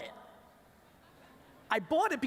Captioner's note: laughter